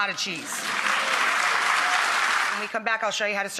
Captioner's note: audience applause